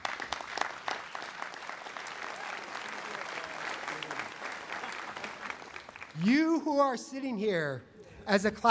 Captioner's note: applause